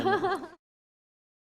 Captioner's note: laughter